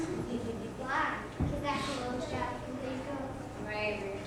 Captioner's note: none